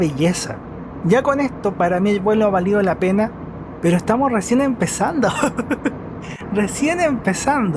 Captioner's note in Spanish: risas